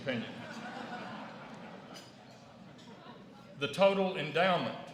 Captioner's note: laughter